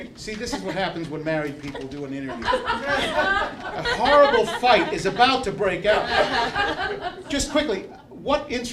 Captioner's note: laughter